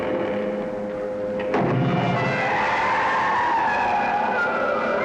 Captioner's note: scream